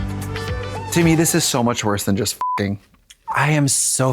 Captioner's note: beep